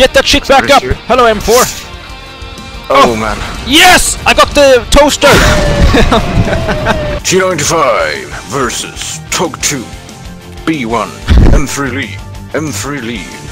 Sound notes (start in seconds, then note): 5.2 booooooom